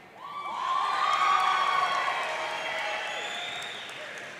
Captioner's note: audience cheering